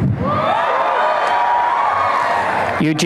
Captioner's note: applause and cheering